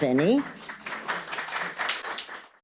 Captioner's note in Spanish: aplausos